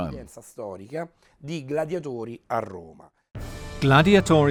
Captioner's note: speaking in foreign language